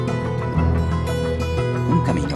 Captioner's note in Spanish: foreign language